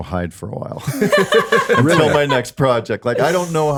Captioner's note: all laughing